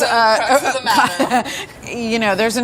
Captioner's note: laughter